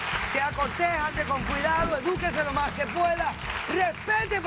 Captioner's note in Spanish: Aplausos